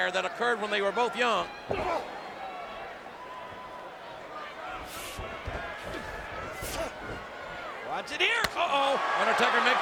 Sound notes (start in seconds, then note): 1.9 Undertaker groans; 1.9 fist thuds; 6.6 Kane grunts